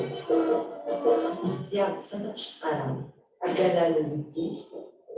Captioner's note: non-english speech